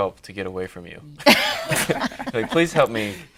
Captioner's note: laughing